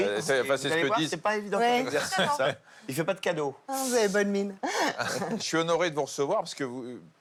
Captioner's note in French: rires